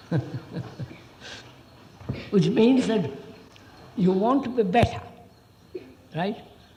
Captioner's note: laughs